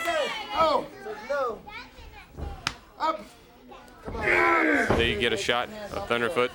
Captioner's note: crowd chatter